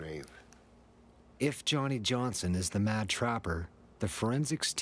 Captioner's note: voiceover